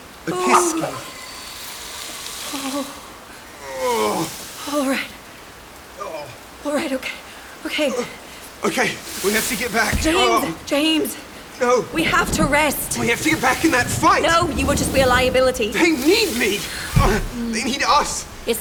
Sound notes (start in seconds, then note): 3.7 James groans